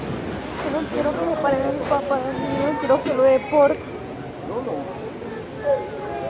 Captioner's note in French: Enfant qui pleure